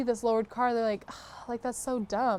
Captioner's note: breath of disgust